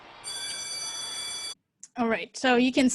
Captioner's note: school bell rings